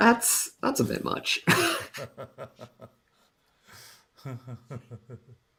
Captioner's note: laughter